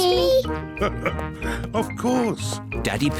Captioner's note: laughs